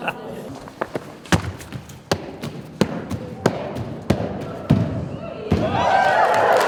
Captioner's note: laughing; crowd cheering; feet and hands hitting mat